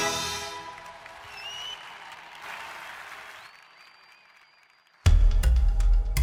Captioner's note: audience applauds and cheers; intense instrumental music